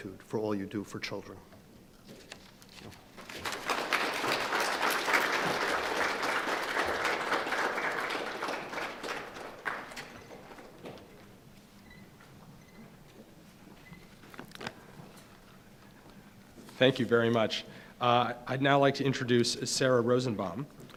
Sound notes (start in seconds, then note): 3.2 applause